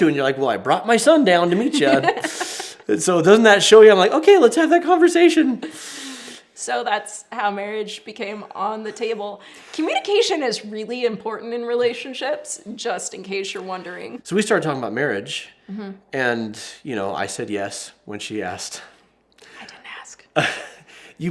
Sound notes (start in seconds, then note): 1.5 laughs